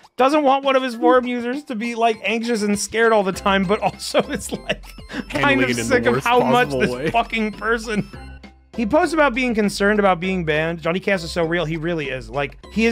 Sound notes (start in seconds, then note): 5.1 laughs